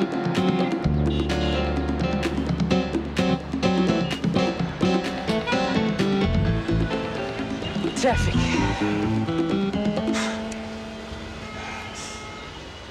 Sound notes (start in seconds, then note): 8.3 sighs; 10.3 Pete sighs